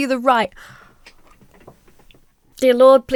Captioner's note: inhales sharply